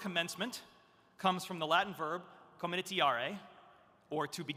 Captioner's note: speaking in Latin